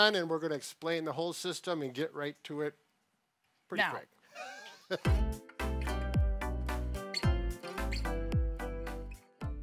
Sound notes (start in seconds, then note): 4.3 laughs; 5.0 upbeat music